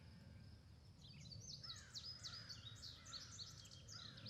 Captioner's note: birds chirping